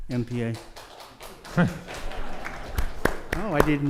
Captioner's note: audience applauding